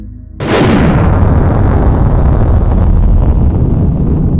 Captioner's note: rocket launching